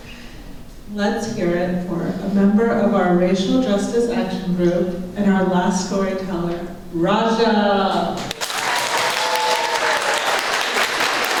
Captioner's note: applause